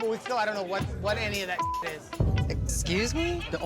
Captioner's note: beep